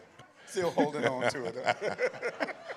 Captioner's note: laughter